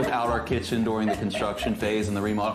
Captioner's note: laughs